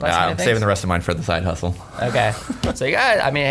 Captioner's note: laughing